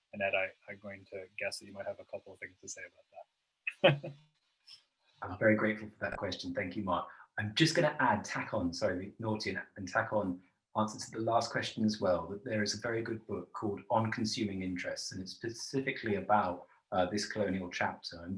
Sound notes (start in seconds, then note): 3.7 laughs